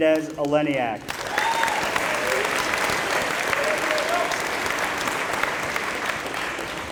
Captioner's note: applause